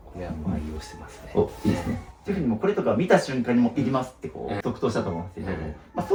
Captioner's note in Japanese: 咳払い